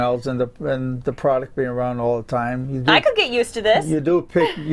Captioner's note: laughter